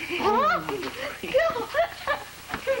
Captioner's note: jill shrieks in surprise